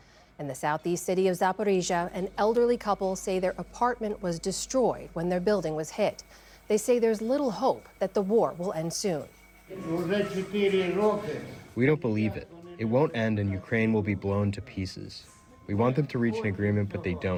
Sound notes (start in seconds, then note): 12.3 through translator